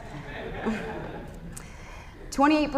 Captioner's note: laughter